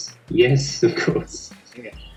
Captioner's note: chuckles